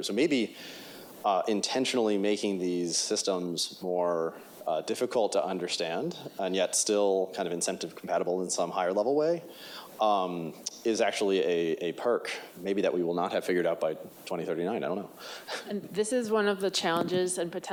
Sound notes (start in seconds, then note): 15.5 chuckles